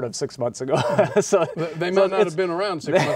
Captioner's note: laughs